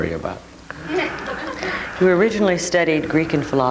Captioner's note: audience laughing